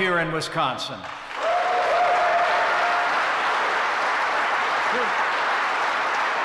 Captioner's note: applause